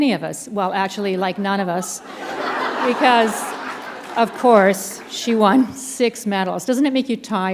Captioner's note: laughter